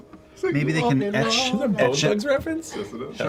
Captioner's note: laugh